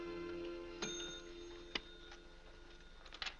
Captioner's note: bell rings